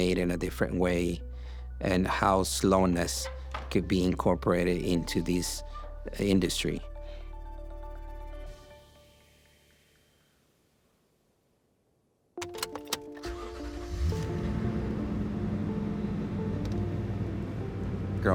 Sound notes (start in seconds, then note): 12.5 engine starts